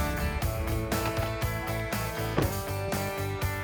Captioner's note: doors shutting